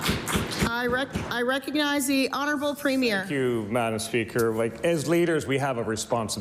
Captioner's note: applause